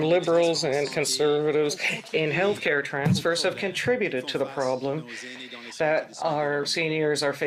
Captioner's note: speaking French